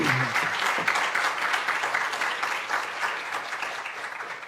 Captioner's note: applause